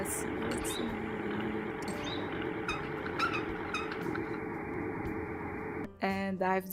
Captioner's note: mechanical noises